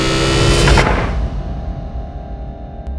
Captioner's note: Door closing